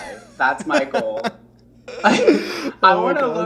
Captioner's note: laughing